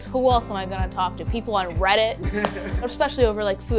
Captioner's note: laughing